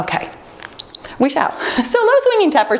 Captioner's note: timer beeps